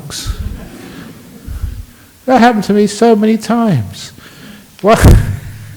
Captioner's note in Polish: Śmiech